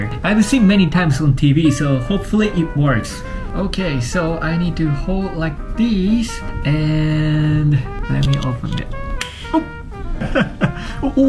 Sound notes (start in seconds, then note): 9.5 tab cracks; 10.0 chuckles